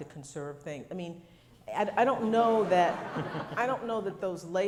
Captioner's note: crowd laughs